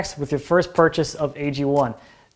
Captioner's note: none